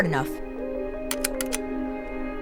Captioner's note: rapid Clicking